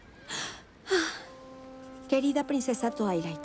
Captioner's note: sigh